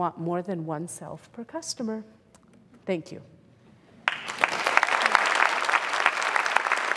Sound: applause

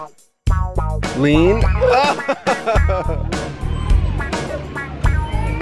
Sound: laughs

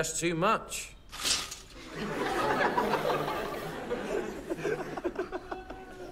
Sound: laughter

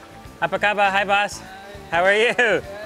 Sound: speaks in foreign language

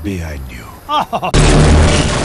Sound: laughs

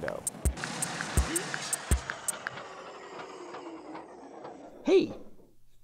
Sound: engine slowing

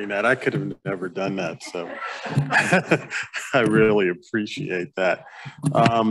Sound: chuckling

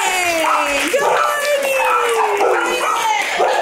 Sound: dogs bark; group claps

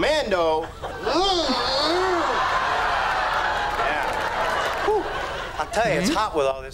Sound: Chandler makes noise of protest

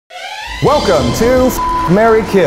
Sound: horn blares

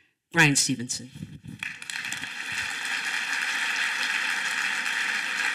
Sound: applause

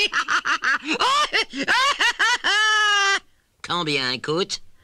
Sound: continues laughing

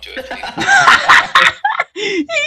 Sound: general laughter

